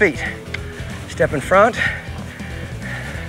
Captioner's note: mouth clicking